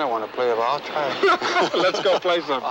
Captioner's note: both laughing